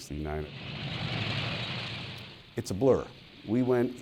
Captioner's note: moving tank echoes